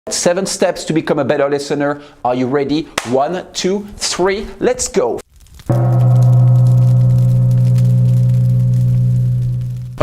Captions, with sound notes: - Seven steps to become a better listener, are you ready? One, two, three, let's go. (crackling)